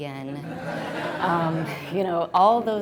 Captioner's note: audience laughs